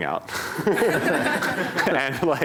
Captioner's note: laughter